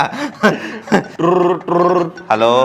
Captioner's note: fake phone ringing